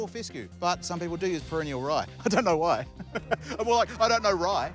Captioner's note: chuckles